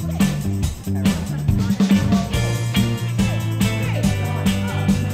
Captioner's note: chatter